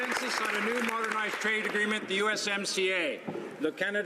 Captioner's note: applause